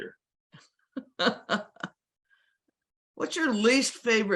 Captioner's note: laughs